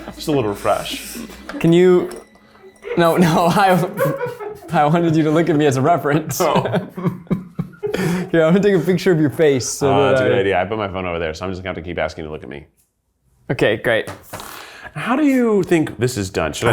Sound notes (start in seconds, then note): 2.8 person laughs; 7.3 chuckles